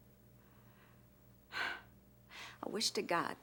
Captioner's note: sighs